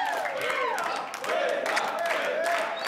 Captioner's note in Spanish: Exclamaciones